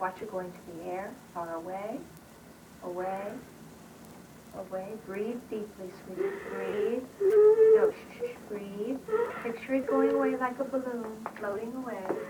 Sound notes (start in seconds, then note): 8.9 sobs